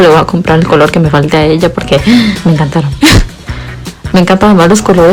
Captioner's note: le gasp